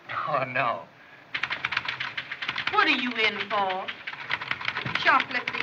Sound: typing

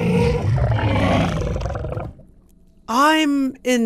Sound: animals groaning

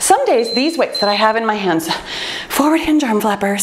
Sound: timer beeps

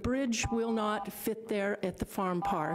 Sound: buzzer rings; buzzer rings

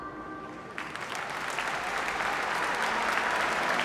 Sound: applause

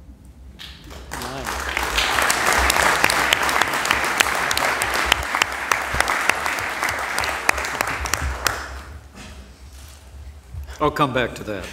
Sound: applause

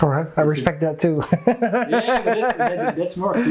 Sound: laughs

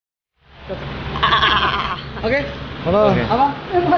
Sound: laughing

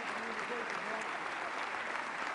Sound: applause

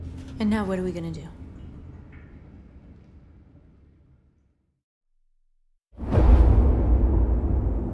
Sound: none

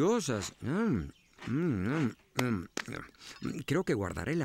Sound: slap! Slap!

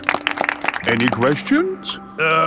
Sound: all clapping

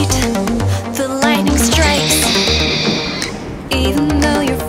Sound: owl shriek

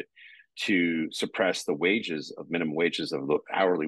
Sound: none

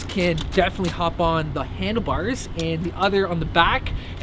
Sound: none

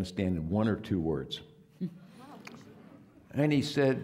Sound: audience laughing

